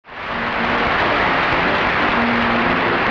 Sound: applause

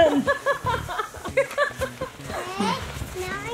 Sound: laughing

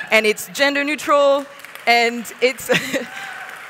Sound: applause

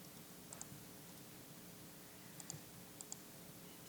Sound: mouse clicking

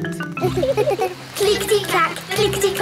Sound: laughing

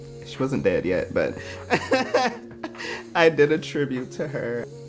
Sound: laughing

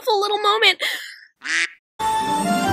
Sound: quack

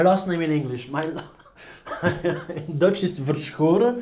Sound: laughs

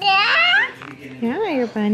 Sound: babbling

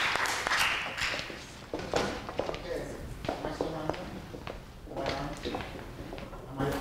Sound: rustling and footfalls of musicians exiting

